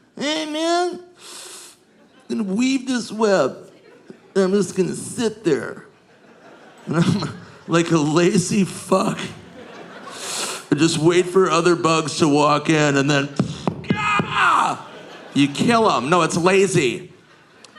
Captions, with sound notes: "Hey, man. (inhales) I'm gonna weave this web. And I'm just gonna sit there like a lazy fuck (inhales) and just wait for other bugs to walk in and then, gah! You kill 'em. No, it's lazy.